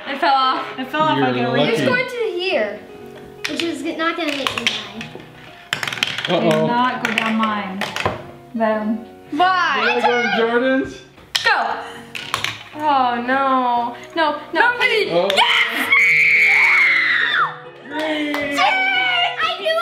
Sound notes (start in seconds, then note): 15.4 screaming